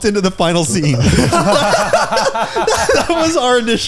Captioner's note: all laughing